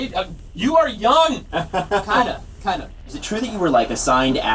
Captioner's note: laughing